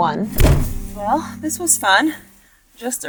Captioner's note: bag thuds